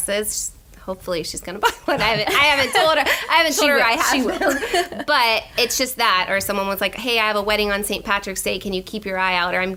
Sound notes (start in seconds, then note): 1.6 laughter